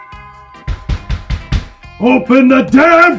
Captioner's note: doorbell Rings; pounding on the Door